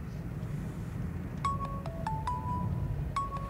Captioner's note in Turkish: Telefon çalıyor